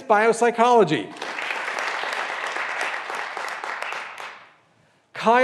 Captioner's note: graduands applauding